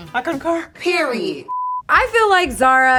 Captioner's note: color bars beeping